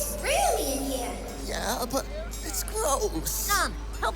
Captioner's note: hesitant